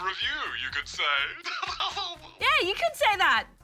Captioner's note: chuckles